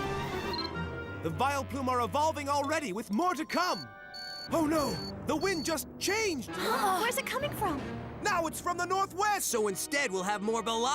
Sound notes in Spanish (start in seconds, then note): 7.0 exclaman